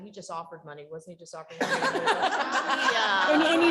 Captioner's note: chuckling